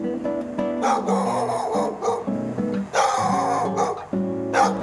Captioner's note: dog barking